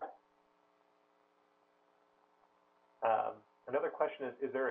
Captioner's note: pause